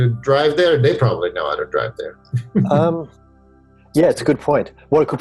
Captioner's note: laughs